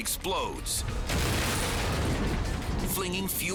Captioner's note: explosion booming